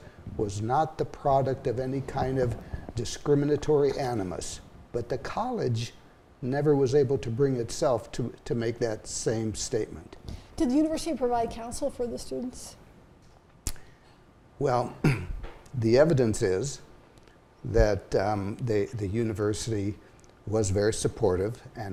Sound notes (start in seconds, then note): 15.0 clears throat